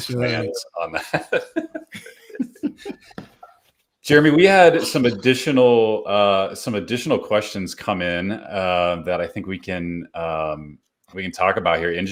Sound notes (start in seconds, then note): 0.8 laughing